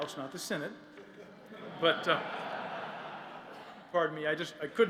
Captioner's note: laughter